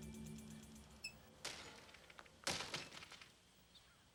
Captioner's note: banging